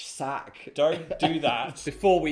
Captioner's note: chuckling